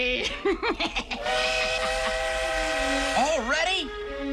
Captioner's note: train whistle blows